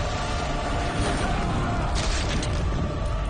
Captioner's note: yells